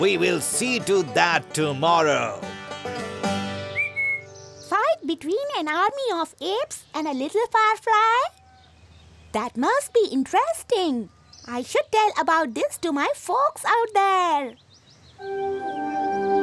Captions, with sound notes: We’ll see to that tomorrow. *Whistles* Fight between an army of apes and a little firefly! That must be interesting. I should tell about this to my folks, out there.